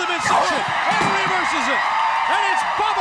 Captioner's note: crowd cheering